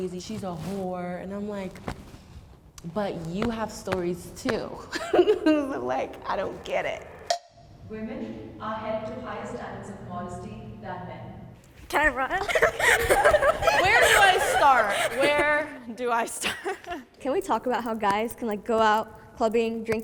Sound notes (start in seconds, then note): 3.2 hands patting; 4.9 laughs; 7.4 timer taps; 12.3 laughs